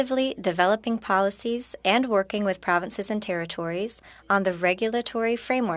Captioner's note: speaking French